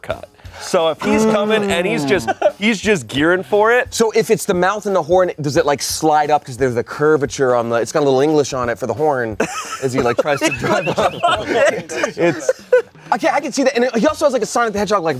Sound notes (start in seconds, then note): 10.9 everyone laughs